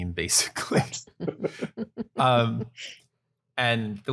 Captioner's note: laughter